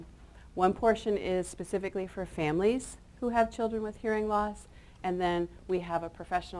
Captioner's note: none